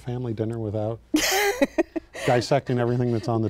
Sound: laughing

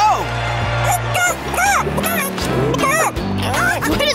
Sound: clucking

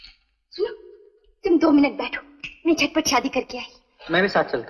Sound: snaps finger

